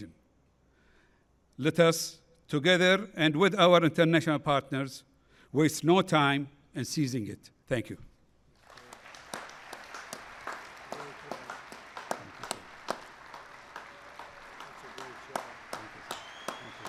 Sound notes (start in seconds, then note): 8.5 applause